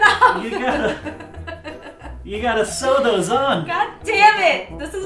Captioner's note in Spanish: se ríe